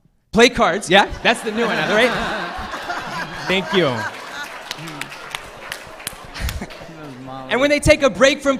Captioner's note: laughter